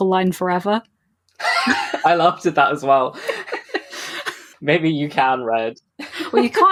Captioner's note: laughs